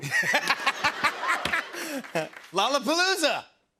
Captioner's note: laughter